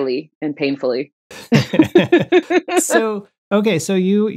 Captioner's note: laughter